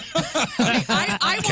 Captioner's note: laughing